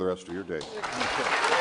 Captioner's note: audience applause, cheers